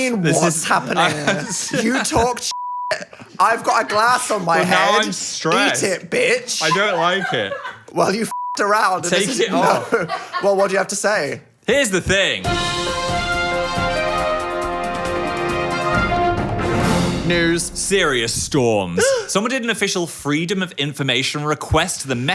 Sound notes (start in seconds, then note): 2.5 beep; 8.3 beep